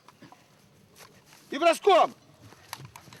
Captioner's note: Russian spoken audio